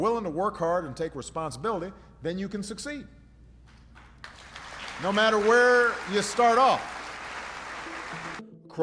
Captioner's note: applause